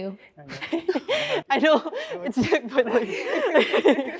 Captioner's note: all laughing